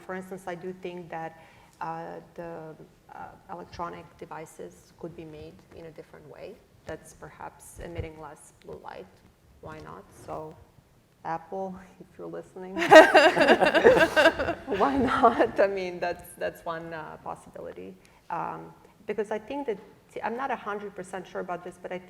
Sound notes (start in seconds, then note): 12.8 laughter